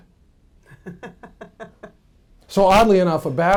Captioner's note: laughing